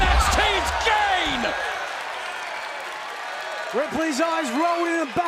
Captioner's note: crowd cheering